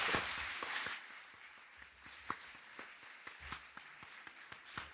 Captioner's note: audience applauding